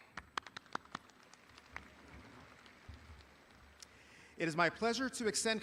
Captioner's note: audience applauding